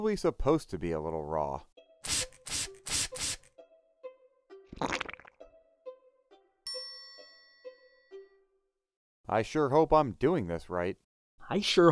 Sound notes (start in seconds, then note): 2.1 spraying; 4.8 squishing